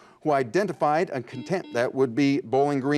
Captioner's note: buzzer buzzes